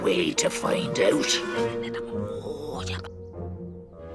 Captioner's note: whispering